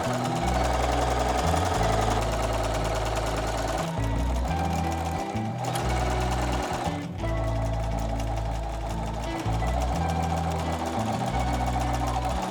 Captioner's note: sewing machine whirring